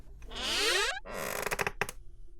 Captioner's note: creaks; creaks again